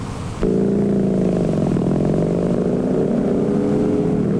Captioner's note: engines roaring